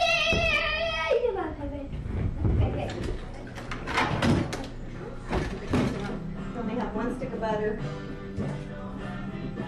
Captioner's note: giggles